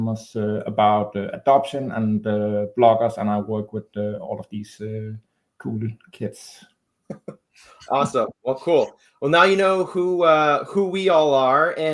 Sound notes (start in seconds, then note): 7.1 chuckles